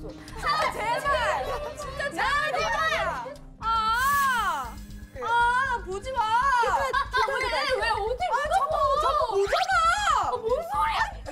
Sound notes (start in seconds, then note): 5.0 keeps shouting